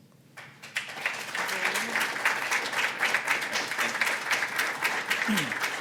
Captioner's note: applause